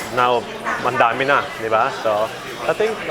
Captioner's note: speaking in foreign language